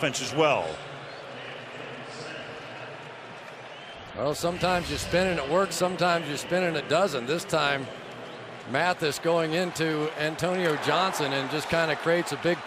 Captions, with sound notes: into the offense as well. [pa announcement] Well, sometimes your spinning, it works. Sometimes your spinning, it doesn't. This time, Mathis going into Antonio Johnson and just kind